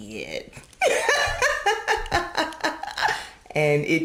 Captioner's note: laughing